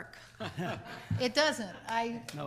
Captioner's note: laughs